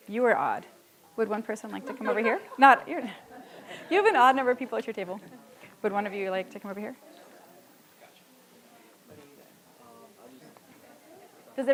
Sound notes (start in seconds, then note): 1.7 audience laughs; 2.8 sighs; 7.8 audience chattering softly